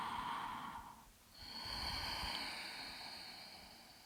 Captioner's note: exhales; inhales